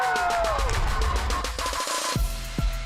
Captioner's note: kids cheering